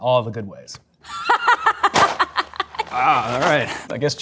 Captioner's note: laughs